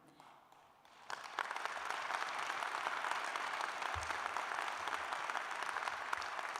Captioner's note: applause